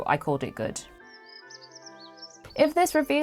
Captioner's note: birds singing